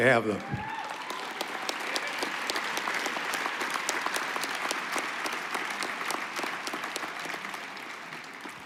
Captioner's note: applause